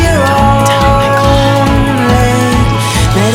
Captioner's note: whispered